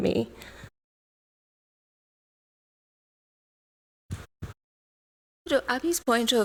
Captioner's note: audio out